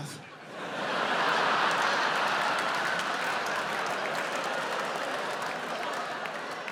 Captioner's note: audience cheering, applauding